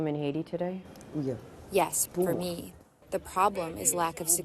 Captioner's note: through translator